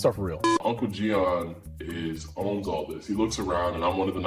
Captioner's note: production beep